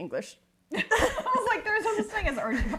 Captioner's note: giggling